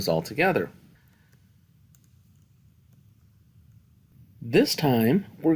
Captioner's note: no Speech Detected